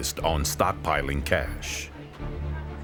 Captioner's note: people chattering; tense music